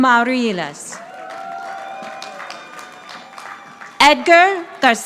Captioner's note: audience applauding